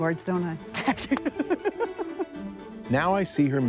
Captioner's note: laughs